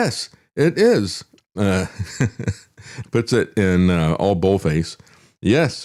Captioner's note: laughs